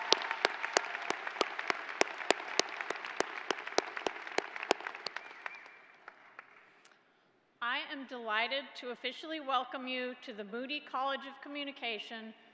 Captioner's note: applause